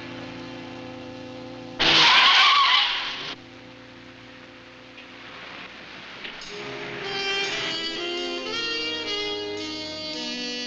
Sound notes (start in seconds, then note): 1.8 tires squealing; 6.4 gentle instrumental music